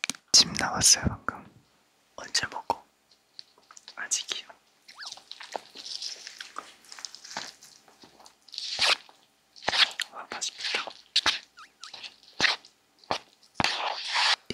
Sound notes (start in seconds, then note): 4.9 stirring